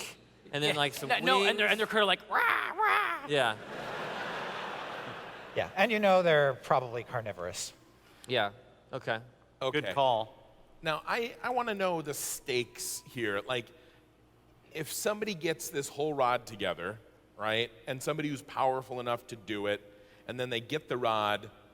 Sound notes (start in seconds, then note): 3.0 bird noises